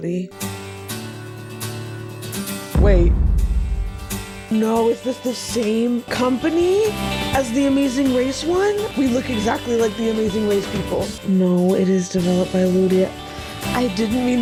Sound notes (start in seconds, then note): 0.4 acoustic guitar playing; 2.7 boom